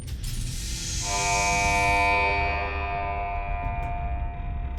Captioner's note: horn blares